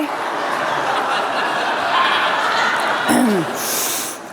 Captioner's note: laughter, cheers